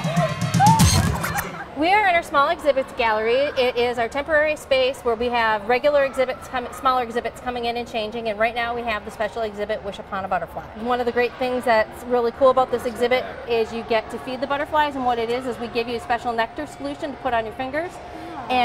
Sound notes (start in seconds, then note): 0.0 laughter; 0.5 screaming